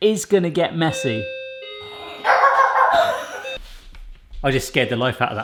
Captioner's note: doorbell ringing; dogs barking